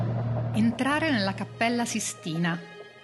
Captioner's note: speaking italian